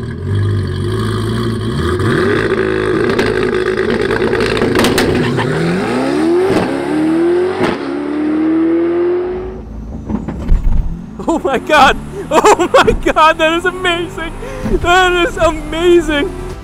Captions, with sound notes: (Car revs up) - Oh my God! Oh my God! That is amazing! That is amazing!